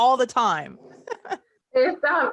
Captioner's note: laughs